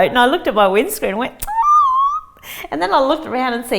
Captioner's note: squeals